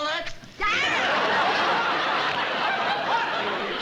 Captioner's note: yells